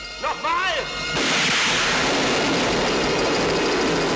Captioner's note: gun fires